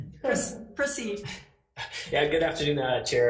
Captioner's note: laughs